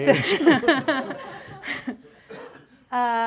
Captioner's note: laughs